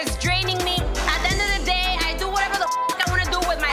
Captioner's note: beep